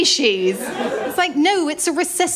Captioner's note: laughter